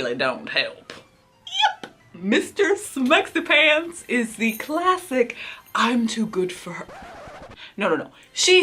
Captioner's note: record scratch